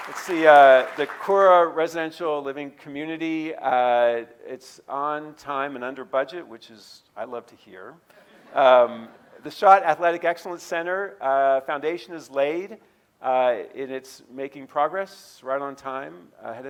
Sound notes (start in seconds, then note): 8.5 audience laughing